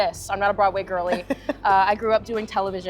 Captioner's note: laughs